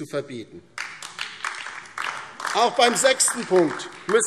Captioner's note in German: Beifall DIE LINKE, vereinzelt SPD und AfD